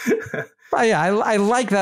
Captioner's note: laugh